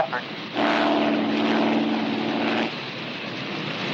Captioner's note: engine rumbles